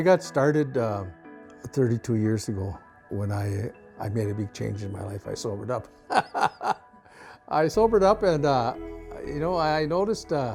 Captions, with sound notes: I got started 32 years ago when I made a big change in my life. I sobered up. (laughs) I sobered up and, you know, I noticed,